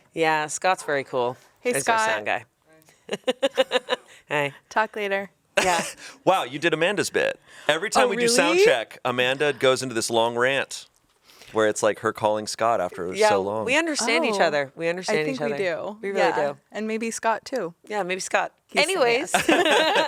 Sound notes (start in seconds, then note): 3.6 laughs